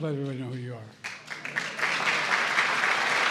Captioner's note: applause